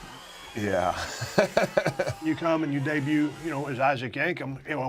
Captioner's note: laugh